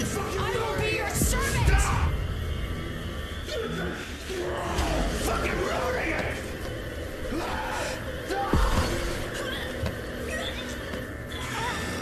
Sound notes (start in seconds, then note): 3.8 gemiti